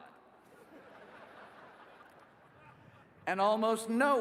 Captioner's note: laughing